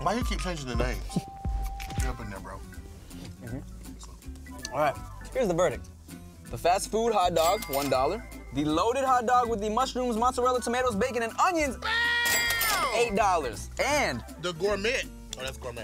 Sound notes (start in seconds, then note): 11.7 yells